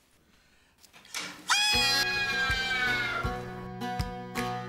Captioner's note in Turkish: Çığlık atıyor